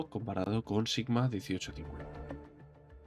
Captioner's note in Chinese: 英语